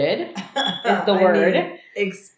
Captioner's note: laughs